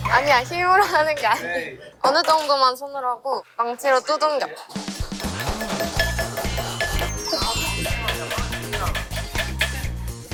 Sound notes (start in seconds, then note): 5.1 hammering diligently